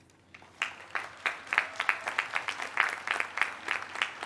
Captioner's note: applause